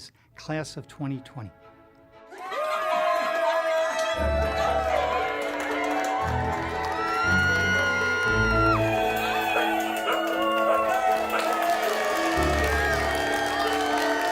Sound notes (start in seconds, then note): 2.4 cheering and applauding